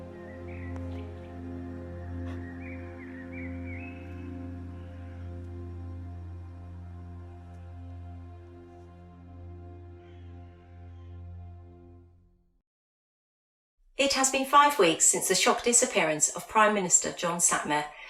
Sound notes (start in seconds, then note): 1.6 breaking down in grief